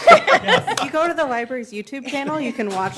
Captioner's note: laughter